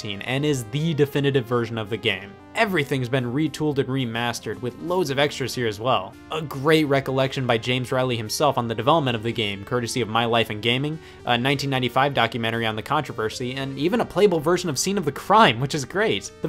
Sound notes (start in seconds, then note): none